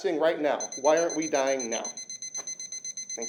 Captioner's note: beeping sounds